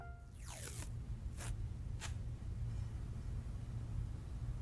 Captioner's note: duct tape screeching